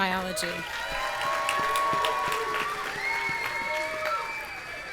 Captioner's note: audience cheering